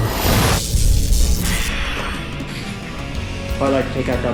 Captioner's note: electricity crackling